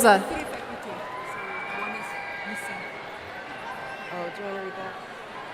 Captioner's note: chattering away from microphone